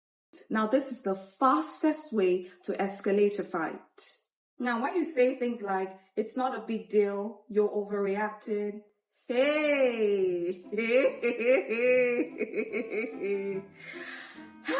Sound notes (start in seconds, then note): 10.4 laughing